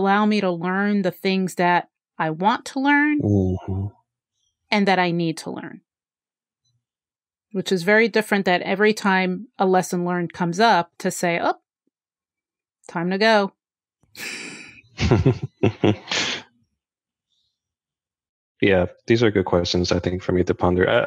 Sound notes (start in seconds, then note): 14.9 chuckles